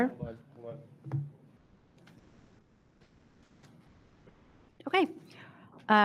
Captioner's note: board member speaking faintly